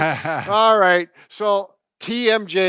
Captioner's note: laughs